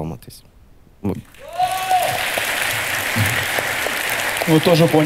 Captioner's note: the audience cheers